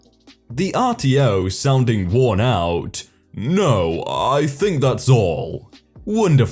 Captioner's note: sounding worn out